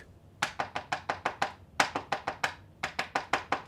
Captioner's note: tapping